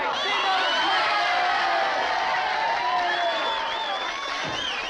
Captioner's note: crowd cheering